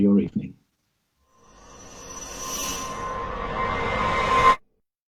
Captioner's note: whoosh